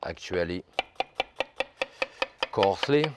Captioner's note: knife tapping